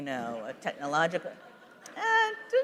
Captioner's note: laughter